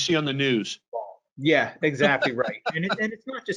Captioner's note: laughs